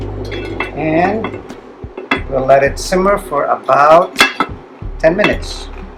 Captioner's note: lid thuds